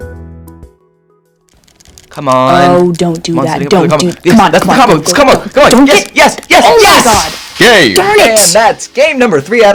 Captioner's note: controllers clacking